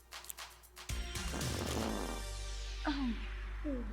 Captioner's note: upbeat synth music continues; Homeless Hugh farts